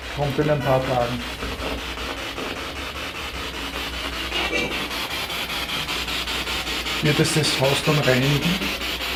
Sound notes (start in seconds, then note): 1.8 radio noise from the spirit box